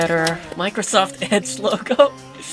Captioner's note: chuckles